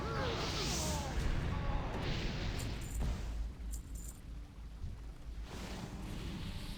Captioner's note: gunshots